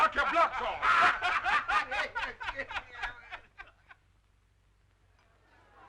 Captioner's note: Joe Corney and Chuck laughing